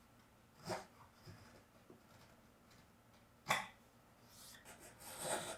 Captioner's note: chisel against wood softly tapping; chisel gently scraping